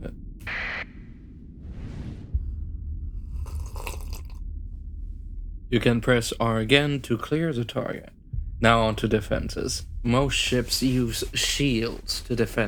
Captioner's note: coffee sip